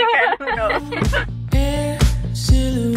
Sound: both laughing

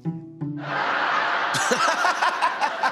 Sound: laugh track

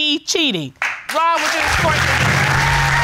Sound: applause; audience applauding

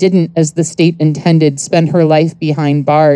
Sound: none

